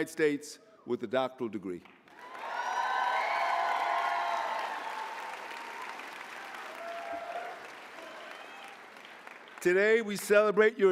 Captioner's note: applause